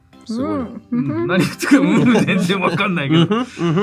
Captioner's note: laughs